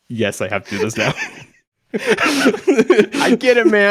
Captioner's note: chuckling